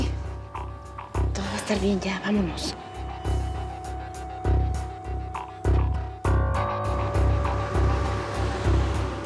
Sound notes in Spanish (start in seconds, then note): 2.8 ruido del vehículo